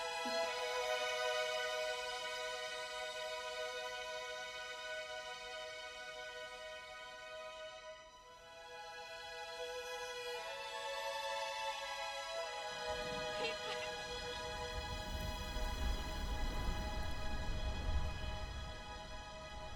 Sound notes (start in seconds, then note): 15.1 wind blowing